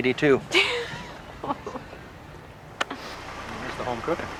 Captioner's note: Laura laughs